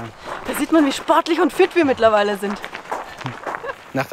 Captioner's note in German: Lachen